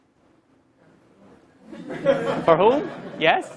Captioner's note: laugh